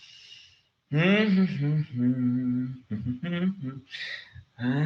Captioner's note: humming